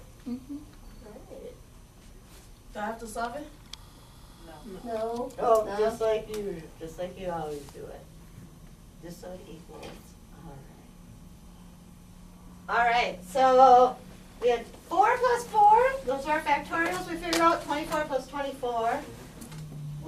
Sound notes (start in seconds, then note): 0.3 voiceover; 2.9 voiceover